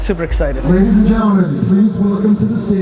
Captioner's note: loudspeaker